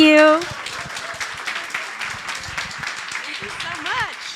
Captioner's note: audience applauding